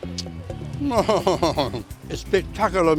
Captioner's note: chuckles